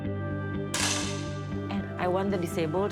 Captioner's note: gun clicks